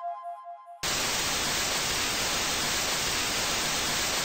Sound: TV static

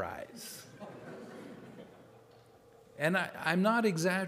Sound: audience laughing

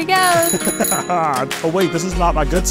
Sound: bike bell rings; laughs

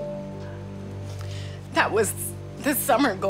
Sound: voice breaking

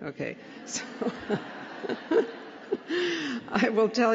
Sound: laughter

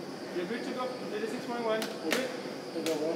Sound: chatter

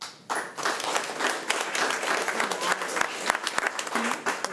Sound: crowd clapping

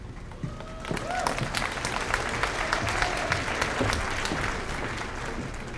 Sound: applause

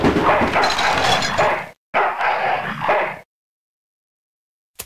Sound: barking

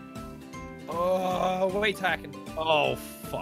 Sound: aggravated moan

